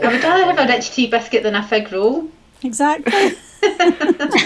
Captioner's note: laughter